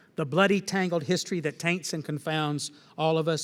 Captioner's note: none